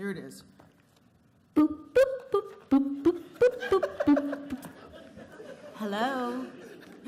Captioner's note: telephone Sound Effects